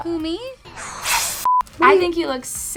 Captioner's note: hissing